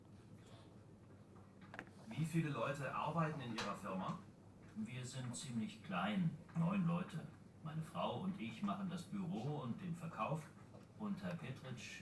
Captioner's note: textbook audio is played